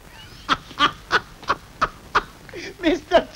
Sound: laughing

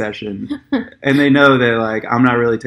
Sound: laughs

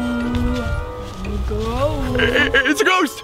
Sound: murmuring

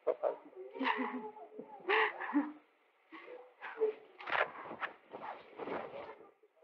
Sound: laughter

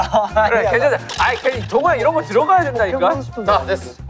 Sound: arguing

